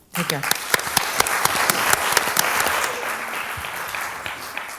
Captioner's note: applause